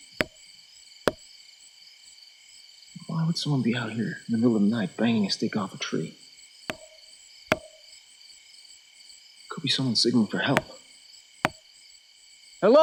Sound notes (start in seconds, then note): 0.1 wood tapping; 7.5 wood tapping